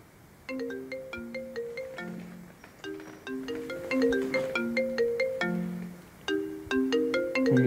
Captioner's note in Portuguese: Som de celular